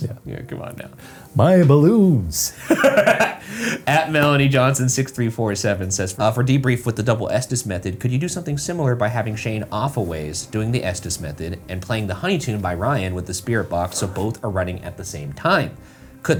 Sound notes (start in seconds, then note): 2.5 laughs